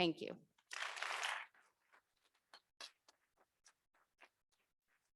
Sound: audience clapping

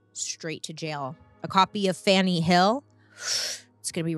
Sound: inhales sharply

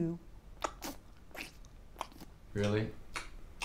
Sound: cud chewing

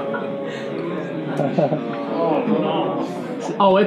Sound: groaning

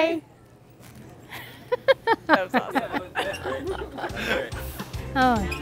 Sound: laughing

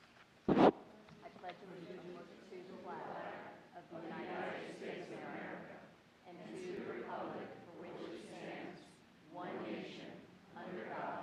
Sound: reciting the pledge of allegiance

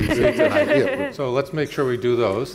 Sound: panelists laughing

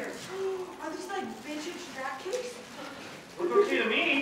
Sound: gasp

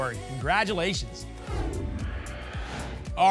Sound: whoosh

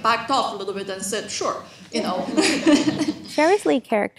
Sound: laughs

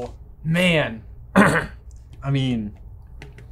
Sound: clears throat

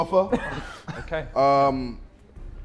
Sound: Sidemen chuckling

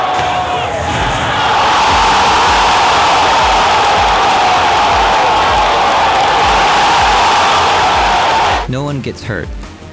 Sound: crowd cheering; crowd popping off and cheering louder

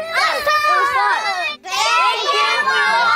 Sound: overlapping enthusiasm

